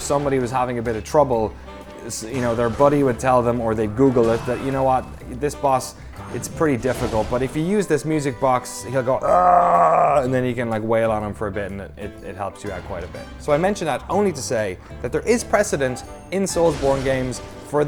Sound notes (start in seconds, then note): 9.2 imitates screaming